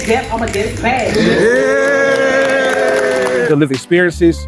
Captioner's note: collective cheers and applause